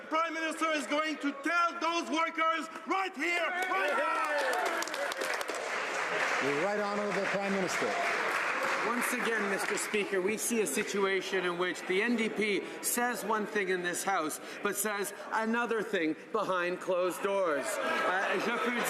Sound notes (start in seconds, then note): 7.8 some Applause